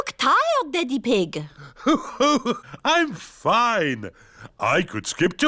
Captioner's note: laughs